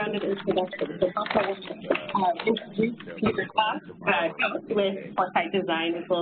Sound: listeners murmur

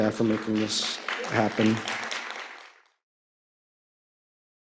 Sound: applause

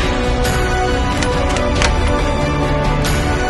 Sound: gunshot popping; suspenseful music

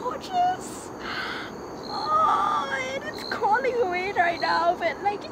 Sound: shrieking noises

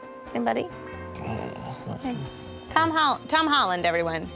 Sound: snores

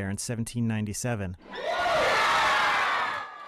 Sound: cheers

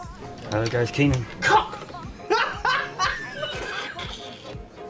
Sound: laughs

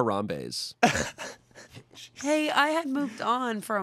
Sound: laughs

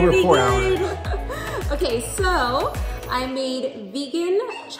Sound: host laughs

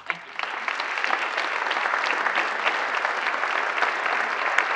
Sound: audience applauds

